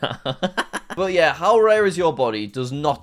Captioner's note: laughs